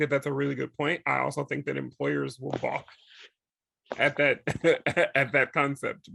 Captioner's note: laughs